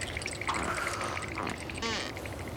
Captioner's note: creak